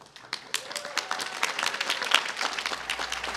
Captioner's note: applause